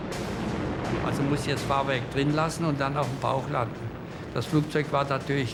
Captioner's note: Hans speaking German